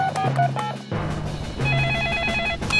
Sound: phone beeping; phone ringing

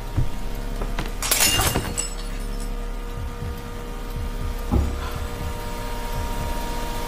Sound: glass shatters; woman gasps; eerie atmospheric noise; heart beats

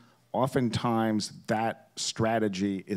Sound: none

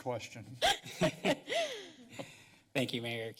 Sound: laughter

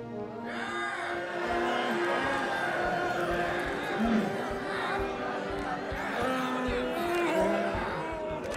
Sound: cheering

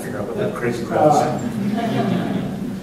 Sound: laughter

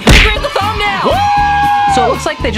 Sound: cheering and whooping

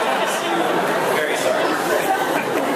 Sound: laughs

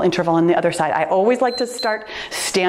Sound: timer beeps

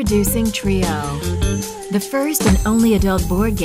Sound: poof, twinkling

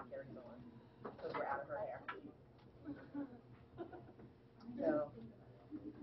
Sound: laughter

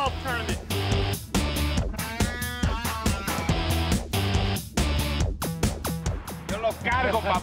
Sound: speaking Spanish; laughter

